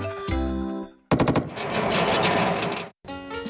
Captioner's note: rollers Rattle